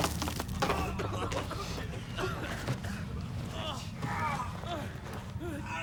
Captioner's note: both cough and groan